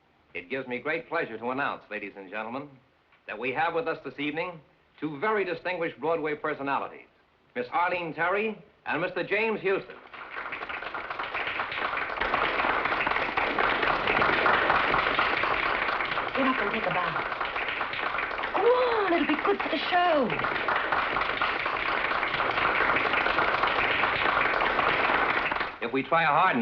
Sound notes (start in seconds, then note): 10.8 applause